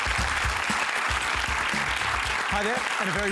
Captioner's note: applause